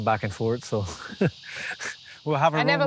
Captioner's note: laughs